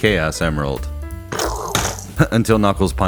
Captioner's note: punching sound